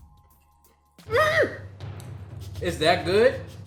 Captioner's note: screams